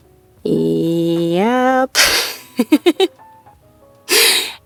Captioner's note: chuckles